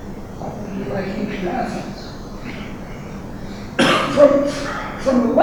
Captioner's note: speaking softly